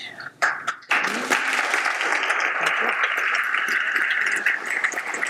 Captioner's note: audience applauds